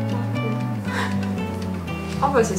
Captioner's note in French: rires